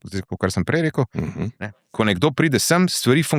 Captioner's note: coughing